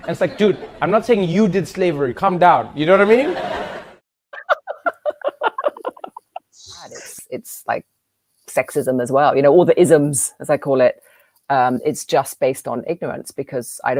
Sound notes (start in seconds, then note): 4.3 laughter